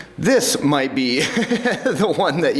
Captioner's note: chuckles